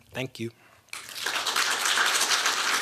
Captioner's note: applause